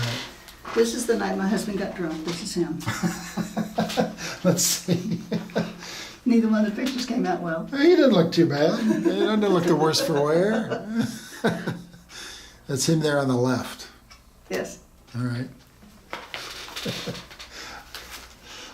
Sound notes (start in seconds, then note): 2.8 laughing; 11.1 laughing